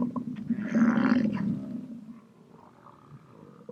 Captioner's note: buffalo grunting